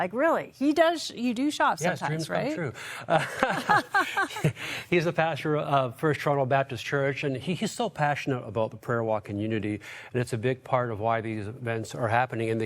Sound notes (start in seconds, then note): 3.0 chuckling